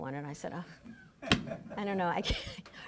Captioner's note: laughing